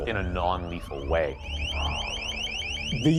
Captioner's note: loud chirping